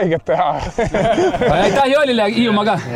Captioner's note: all laughing